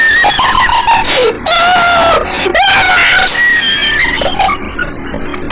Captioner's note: wheezes